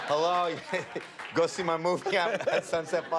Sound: laughter

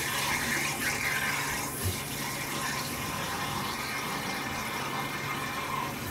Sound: water running through pipes

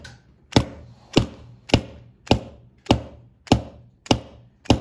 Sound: screwdriver thudding

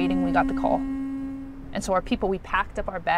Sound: horn blaring

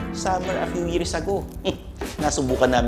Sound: scoffs

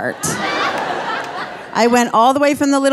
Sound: audience laughing

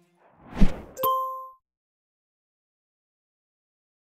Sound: logo whooshing; ding

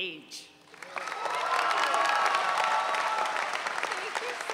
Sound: audience cheering

